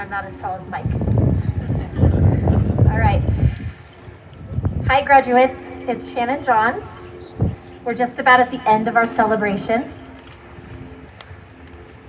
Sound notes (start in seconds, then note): 1.4 laughter